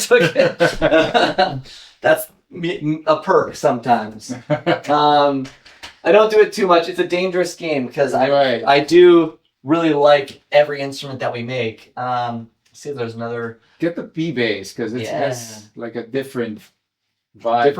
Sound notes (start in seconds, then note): 0.0 laugh; 3.8 laugh